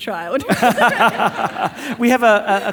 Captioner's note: all laughing